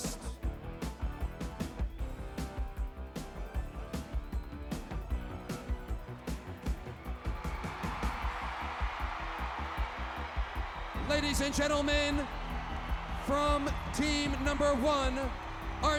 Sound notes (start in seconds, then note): 0.0 upbeat rock music; 7.3 crowd cheering